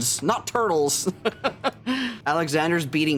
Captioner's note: laughs